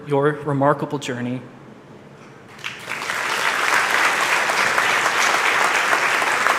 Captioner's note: applause